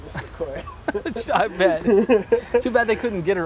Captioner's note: laugh